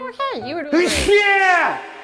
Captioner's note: man warrior sneeze